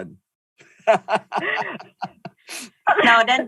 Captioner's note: laughing